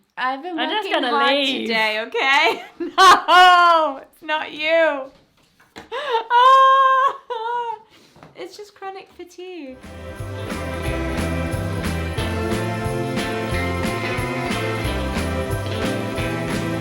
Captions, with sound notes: I'm just gonna leave. - I've been working hard today, okay? No! It's not you (laughter) It's just chronic fatigue. (bouncy Christmas music)